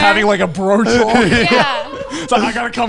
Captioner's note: all laughing